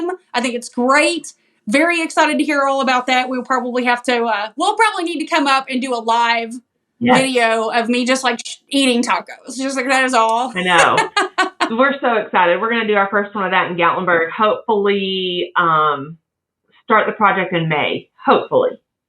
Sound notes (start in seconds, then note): 10.5 laugh